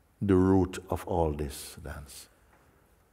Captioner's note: none